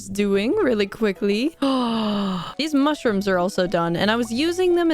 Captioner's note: gasp